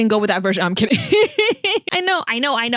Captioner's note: laugh